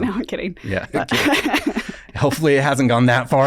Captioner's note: laughs